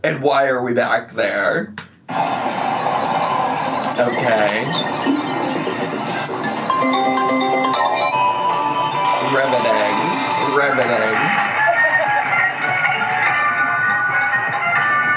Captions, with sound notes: And why are we back there? Okay. (slot machine dings) Riveting. Riveting. (upbeat music)